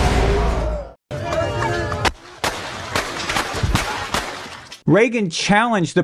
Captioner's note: audio: gunshots & screaming